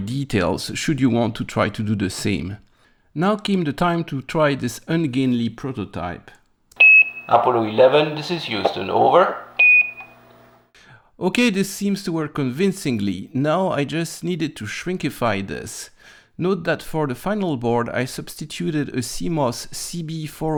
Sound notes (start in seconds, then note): 9.5 low beep